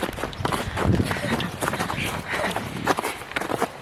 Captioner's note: dumb giggling